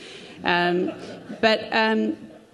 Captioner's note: crowd laughing